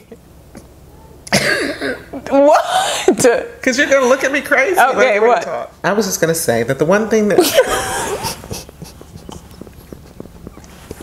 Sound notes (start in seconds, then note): 0.2 laughing; 7.4 laughing